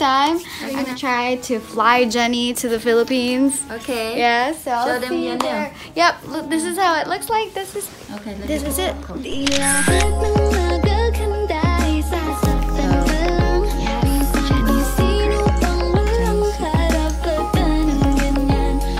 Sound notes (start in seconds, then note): 9.3 camera click